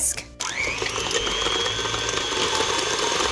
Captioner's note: whirring